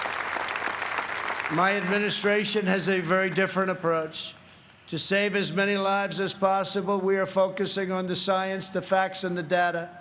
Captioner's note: applause